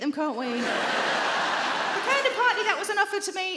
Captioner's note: audience laughing